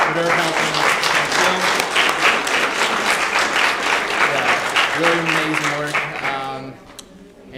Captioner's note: applause